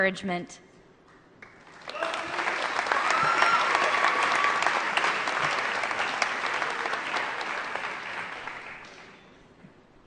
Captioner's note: applause